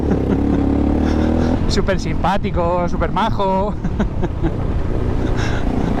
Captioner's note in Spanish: risas; risas